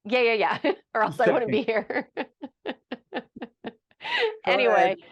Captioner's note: laughing